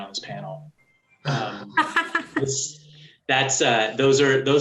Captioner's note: laughs